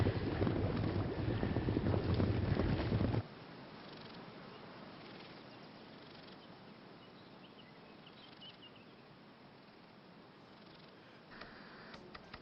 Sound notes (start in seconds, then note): 6.6 birds chirping